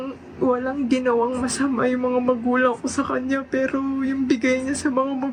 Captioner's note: speaks foreign language